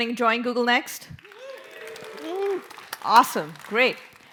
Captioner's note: applause